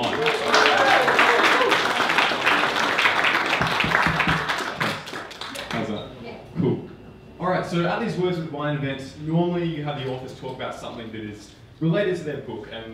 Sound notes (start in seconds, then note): 0.0 audience applauding; 3.3 microphone thumping